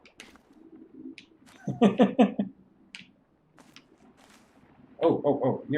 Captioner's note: chuckles